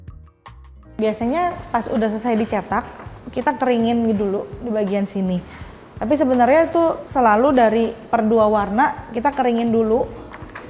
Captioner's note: printing